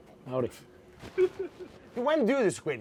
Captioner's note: laughs